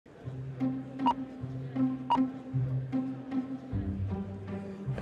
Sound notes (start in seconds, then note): 0.1 playful music; 1.1 graphic beeping; 3.1 playful music